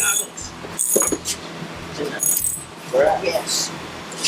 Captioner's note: socket wrench crank